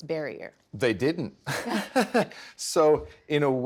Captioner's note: laughing